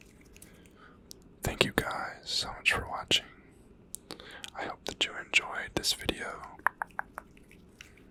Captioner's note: tongue clicking